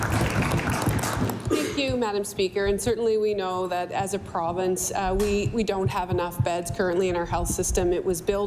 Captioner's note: applause